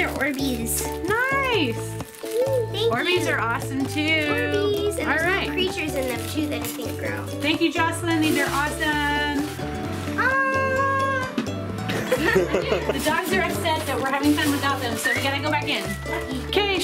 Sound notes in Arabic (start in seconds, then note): 10.2 صراخ; 11.9 يضحك